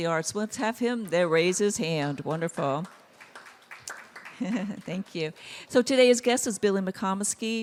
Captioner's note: applause; laugh